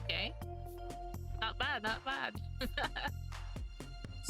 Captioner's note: laugh